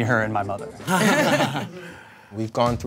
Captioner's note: all chuckle